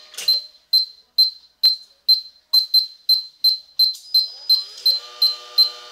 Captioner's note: beep during the cycle with acceleration in each step